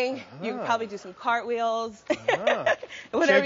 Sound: laughing

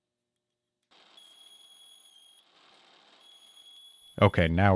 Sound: machine whirring

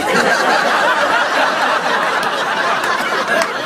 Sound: laughter

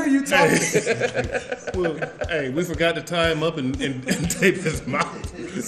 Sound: laugh

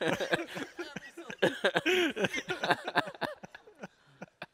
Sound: laughter

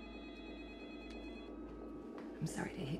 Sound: home phone ringing

